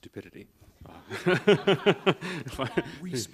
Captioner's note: laughing